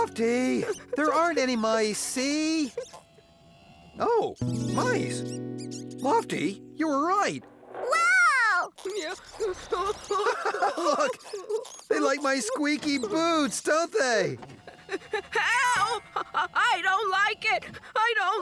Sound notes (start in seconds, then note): 4.9 mice Squeaking; 9.4 chuckling